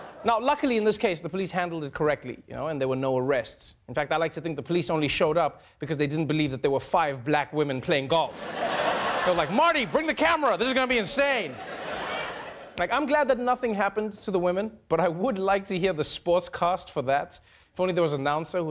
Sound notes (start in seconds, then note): 12.0 audience laughing